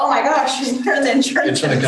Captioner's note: laughs